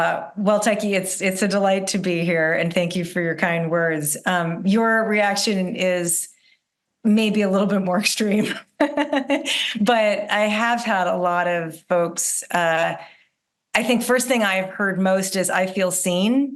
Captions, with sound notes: Well, Taki, it's a delight to be here, and thank you for your kind words. Your reaction is maybe a little bit more extreme (laughs), but I have had a lot of folks… I think first thing I have heard most is, I feel seen,